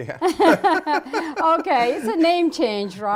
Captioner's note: Gingrich and Bullis laugh